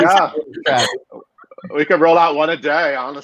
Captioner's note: group laughing